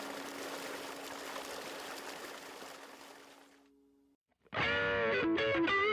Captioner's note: peaceful guitar; water streaming; blues guitar